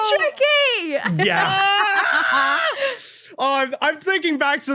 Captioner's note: clamour